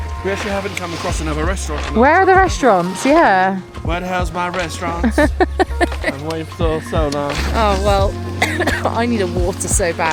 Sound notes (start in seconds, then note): 3.6 sings; 4.8 laughs; 8.2 coughs